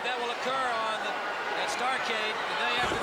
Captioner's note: crowd chatter